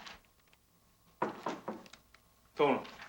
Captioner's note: door knocking